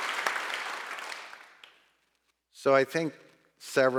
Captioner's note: audience applauding